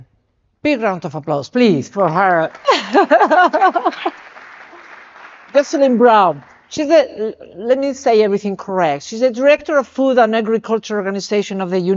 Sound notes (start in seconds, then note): 2.0 audience clapping; 2.6 chuckles